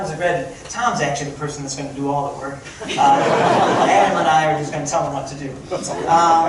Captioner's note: crowd laughting